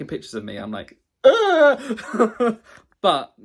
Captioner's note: laughs